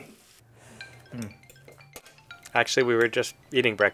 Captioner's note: cell-phone jingle